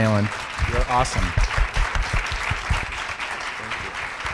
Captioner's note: applause